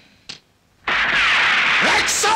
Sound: gunshot

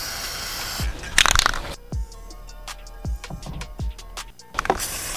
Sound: spray can clicking

